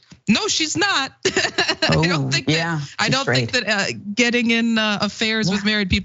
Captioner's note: laugh